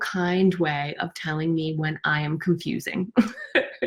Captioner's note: laughs